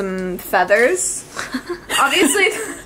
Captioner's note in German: kichern